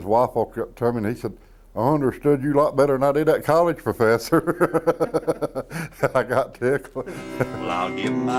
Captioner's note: laughter